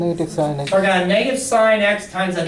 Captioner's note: voiceover